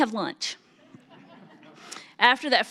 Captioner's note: audience laughs